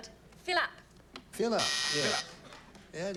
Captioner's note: buzzer